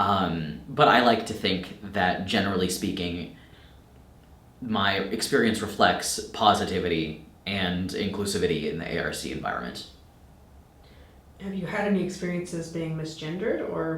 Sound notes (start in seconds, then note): none